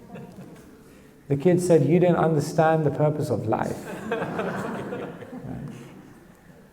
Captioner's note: audience laughs